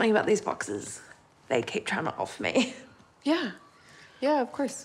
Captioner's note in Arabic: يضحك